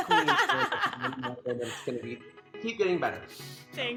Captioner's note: laughs